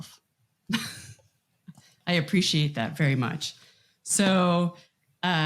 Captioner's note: chuckles